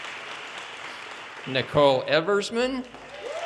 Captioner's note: audience cheers and applause